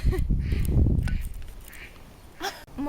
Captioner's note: gasps; laughs